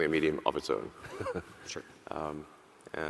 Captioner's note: laughs